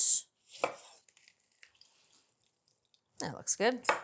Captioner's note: juice pouring